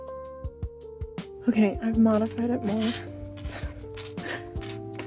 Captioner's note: laughs